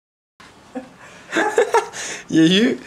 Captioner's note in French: rires